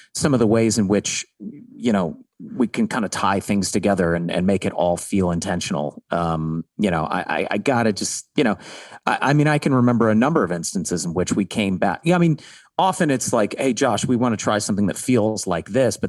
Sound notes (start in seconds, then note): none